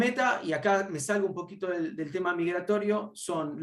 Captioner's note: speaks Spanish